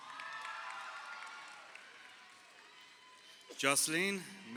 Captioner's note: crowd cheering